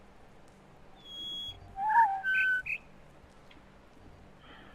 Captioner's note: bird chirps four notes; bird warbling ˩˧˩ ˥